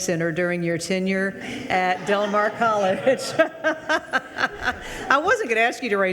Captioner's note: laughs